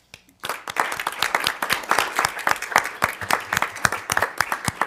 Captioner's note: audience applauding